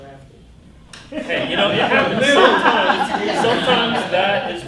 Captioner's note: laughter